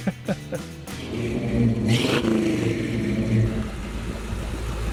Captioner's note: laughs; engine revving